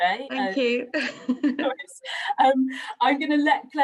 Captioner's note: laughs